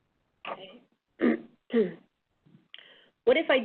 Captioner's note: clears throat